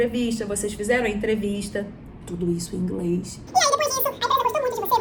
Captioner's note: all this in english